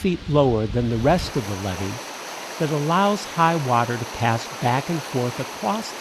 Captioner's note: water flowing quickly